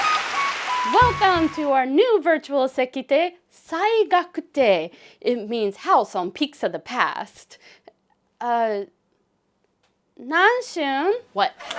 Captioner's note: audience applause; cheering